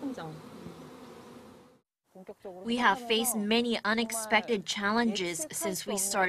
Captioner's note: Korean